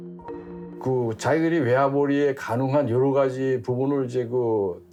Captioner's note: speaking Korean